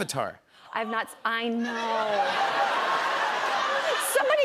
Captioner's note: laughter